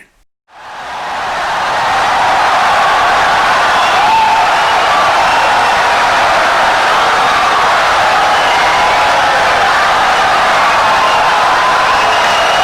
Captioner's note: wild applause and cheering for 17 seconds